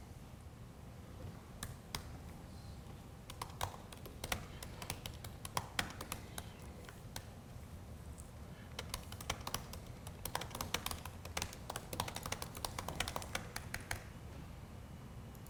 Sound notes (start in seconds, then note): 3.3 keyboard clicking